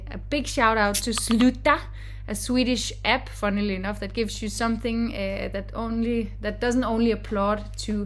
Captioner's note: Slack sound